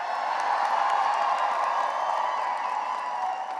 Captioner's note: cheering and applause